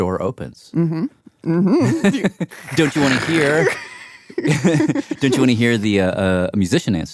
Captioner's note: laughs